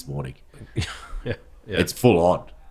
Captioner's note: laughing